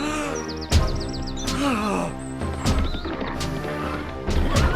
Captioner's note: dramatic music; Jehu gasping